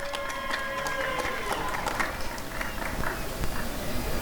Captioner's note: applause and cheering